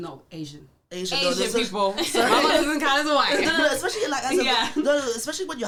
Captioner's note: laughs